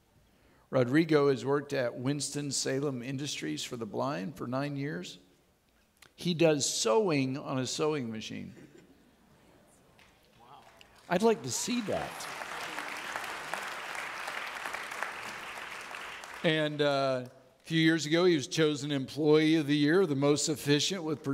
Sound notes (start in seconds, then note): 13.5 audience clapping